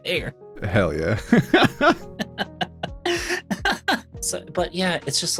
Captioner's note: laughing